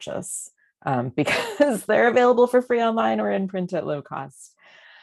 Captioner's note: laughter